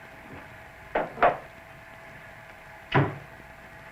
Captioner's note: cupboard doors bang shut